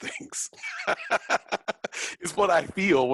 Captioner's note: chuckles